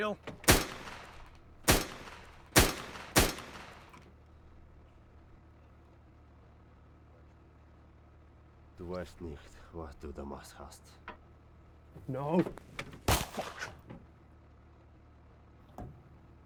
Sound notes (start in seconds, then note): 1.6 shots firing; 9.0 muttering in foreign language; 13.0 shot fires